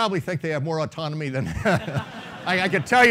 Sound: laughing

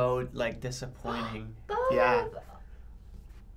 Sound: gasps

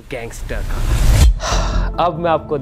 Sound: sighs

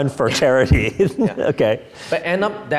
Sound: laughing

